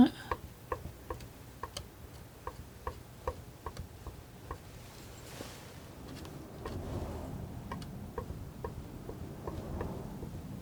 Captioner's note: tapping